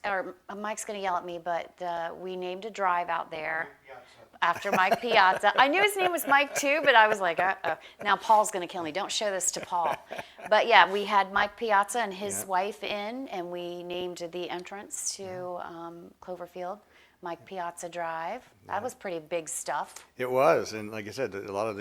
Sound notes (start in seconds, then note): 4.4 laughs